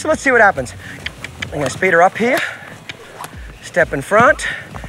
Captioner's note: mouth clicking